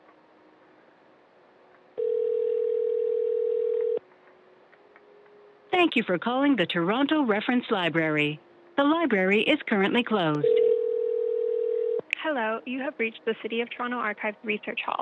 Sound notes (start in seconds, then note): 2.0 phone rings; 10.4 phone rings